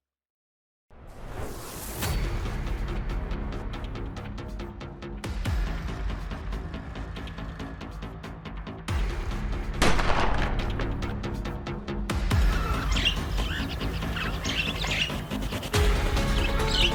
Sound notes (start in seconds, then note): 1.0 transition whooshing; 2.1 suspenseful music; 9.8 gun firing; 12.3 birds chirping